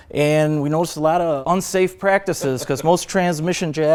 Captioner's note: chuckles